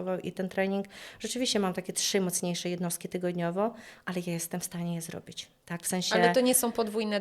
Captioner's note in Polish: none